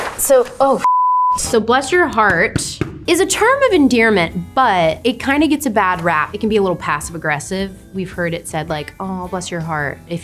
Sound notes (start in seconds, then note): 2.0 pointer tapping